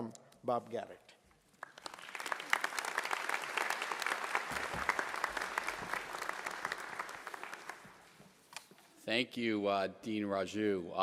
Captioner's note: applause